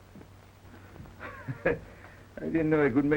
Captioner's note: Pepe chuckles